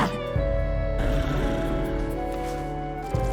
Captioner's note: creature growls